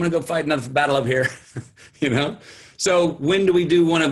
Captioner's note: chuckles